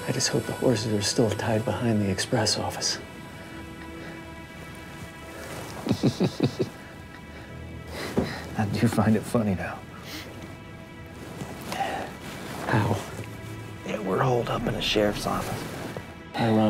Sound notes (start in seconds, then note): 5.6 chuckles